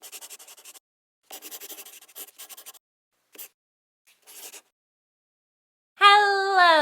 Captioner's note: the sound of a pen scratching